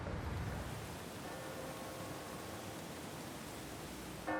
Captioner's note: bell tolls